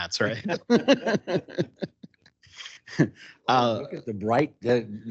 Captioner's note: council laughing